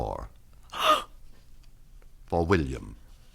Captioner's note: gasps